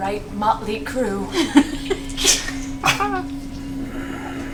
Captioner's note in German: Gelächter